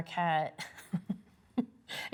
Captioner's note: giggles